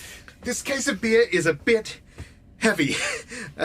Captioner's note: Bob heaves